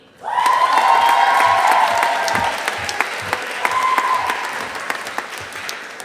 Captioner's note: audience applauding